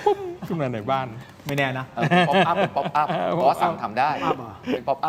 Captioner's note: laughs